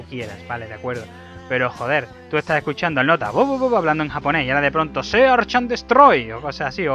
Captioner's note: with Japanese accent